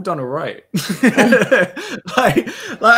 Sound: laughs

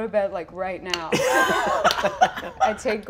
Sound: cast laughing

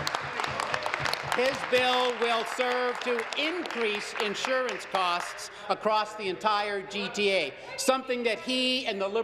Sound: applause

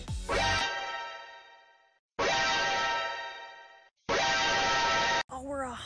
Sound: surprised tone rings three times

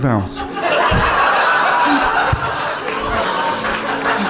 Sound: giggling

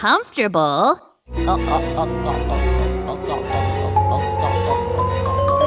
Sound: gulping water

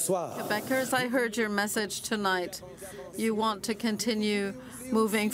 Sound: cheering and Applause; speaking French

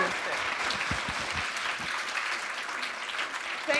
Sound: applause

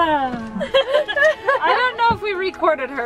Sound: laughing

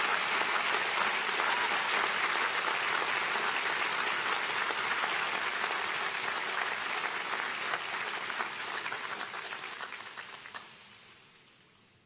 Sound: applause

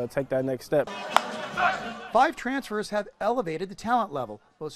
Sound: clap

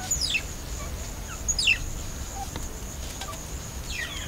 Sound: mongoose noises

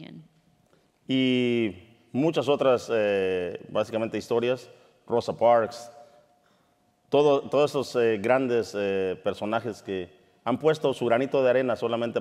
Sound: speaking in Spanish

